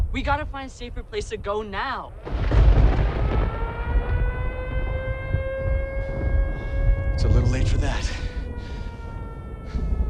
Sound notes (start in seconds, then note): 2.2 thunderclap; 2.2 siren blaring